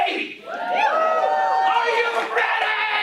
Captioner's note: cheering